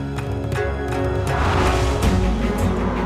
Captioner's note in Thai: เสียงสะบัดผ้า